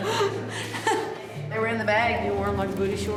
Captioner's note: laughs